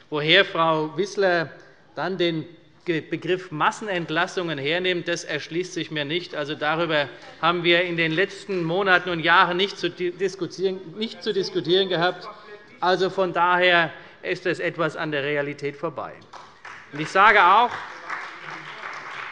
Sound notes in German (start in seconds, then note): 6.4 Beifall der Abg. - Zuruf: Das weiß sie selbst nicht!; 16.2 Beifall bei Abgeordneten der CDU